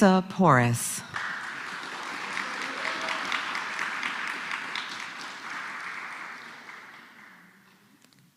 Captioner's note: applause